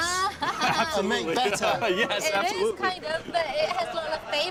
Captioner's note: laughing